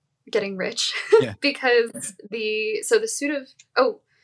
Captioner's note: chuckles